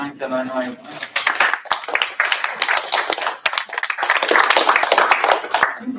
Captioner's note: applause